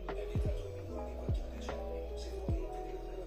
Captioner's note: in Italian